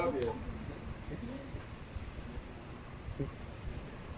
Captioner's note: chuckling